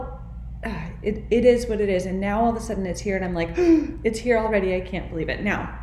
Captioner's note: gasp